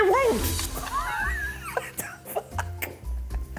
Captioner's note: laughs